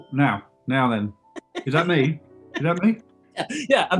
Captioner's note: giggling